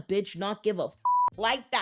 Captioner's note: beep